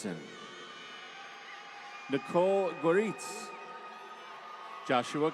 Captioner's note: applause